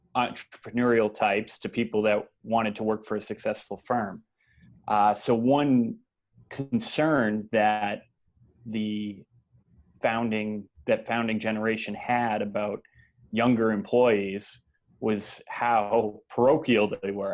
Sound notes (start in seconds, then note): none